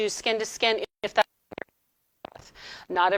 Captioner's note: audio distorting